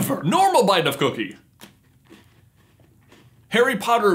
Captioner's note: normal bite of cookie